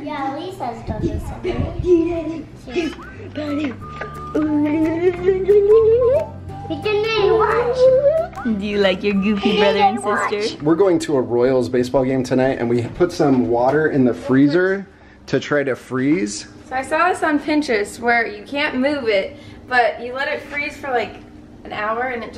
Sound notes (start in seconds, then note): 2.8 lively whistling music; 4.5 playful jibberish